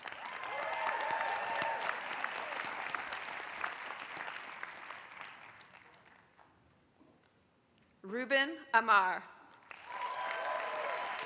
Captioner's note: applause; applause